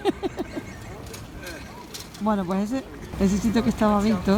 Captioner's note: laughs